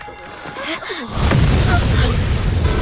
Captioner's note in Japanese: 一同の驚く声; 煙の噴出音